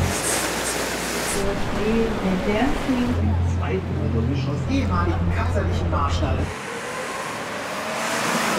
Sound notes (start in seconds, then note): 1.6 loudspeaker announcements